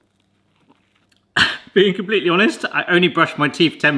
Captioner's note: coughs